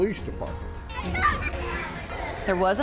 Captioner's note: kids playing